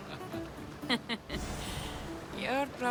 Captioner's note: laughs